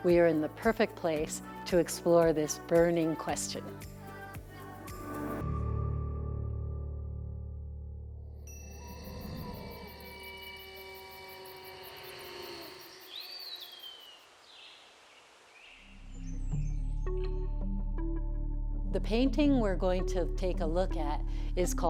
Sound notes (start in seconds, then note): 4.4 upbeat music; 10.7 birds chirping; 15.9 contemplative music